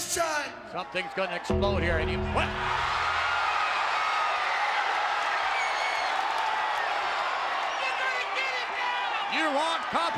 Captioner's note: applause